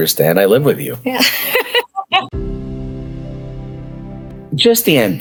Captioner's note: laughing